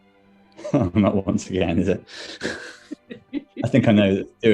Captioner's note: laughs